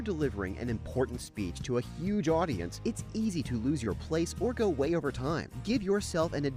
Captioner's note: voiceover